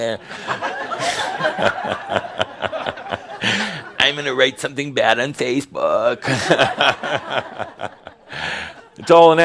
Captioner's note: laughter